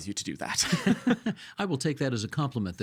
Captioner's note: laughing